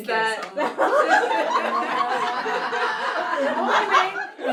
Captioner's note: audience laughs